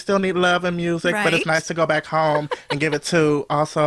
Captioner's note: laughs